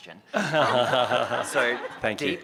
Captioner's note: laughter